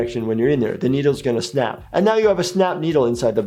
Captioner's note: none